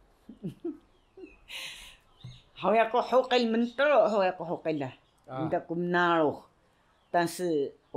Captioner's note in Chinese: 嘻…